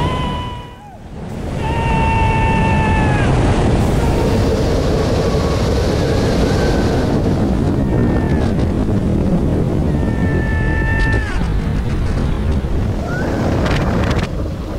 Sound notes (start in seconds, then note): 0.0 sound of rollercoaster taking off; 1.5 screams